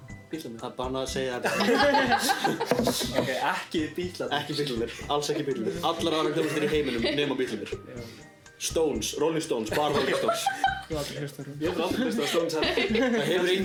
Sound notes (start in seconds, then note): 1.4 hahah